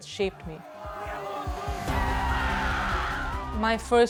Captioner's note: shouting